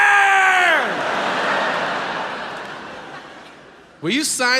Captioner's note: audience laughs